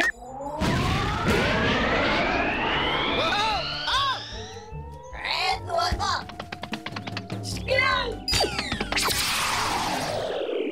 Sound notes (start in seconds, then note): 4.7 exclaims